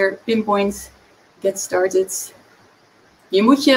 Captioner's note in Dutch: in het engels